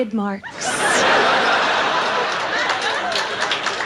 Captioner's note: audience laughs; audience claps and whistles